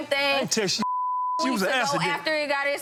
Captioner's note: beep